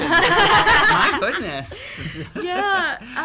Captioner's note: laughs